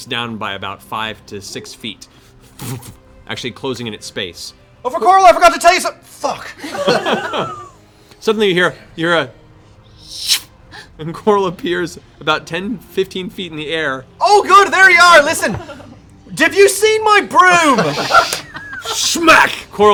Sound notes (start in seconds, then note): 8.8 zip